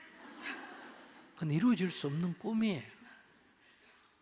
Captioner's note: audience Laughter